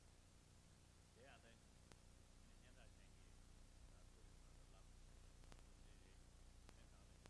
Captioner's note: foreign words